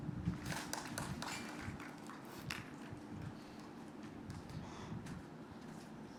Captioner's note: applause